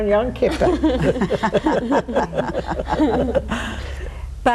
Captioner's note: all laughing